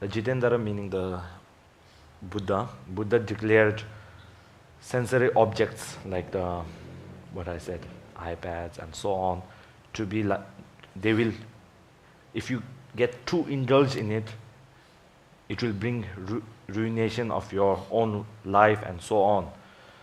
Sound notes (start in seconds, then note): none